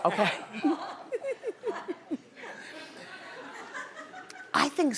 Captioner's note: laughing